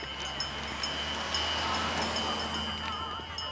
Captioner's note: bell ringing